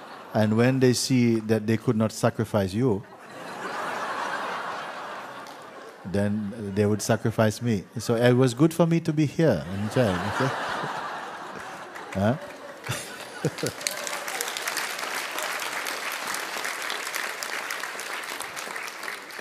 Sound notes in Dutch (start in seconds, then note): 3.0 gelach; 12.3 gelach; 12.9 gelach en applaus